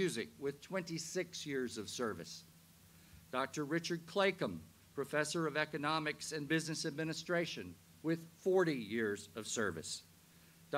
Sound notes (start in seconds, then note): none